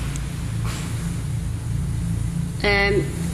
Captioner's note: distant footsteps